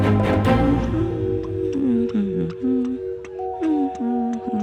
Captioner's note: humming to herself